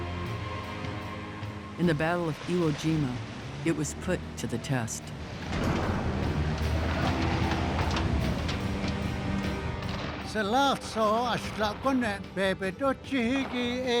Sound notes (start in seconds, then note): 9.5 man speaking Navajo